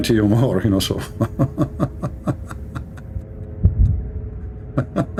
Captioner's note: Ketawa